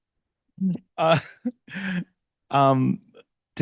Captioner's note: chuckles